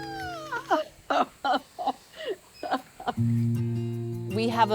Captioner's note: laughs